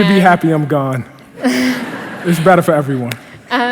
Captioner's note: laughter